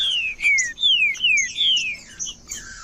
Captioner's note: trinca ferro cantando